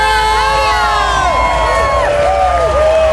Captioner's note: cheering; emotional music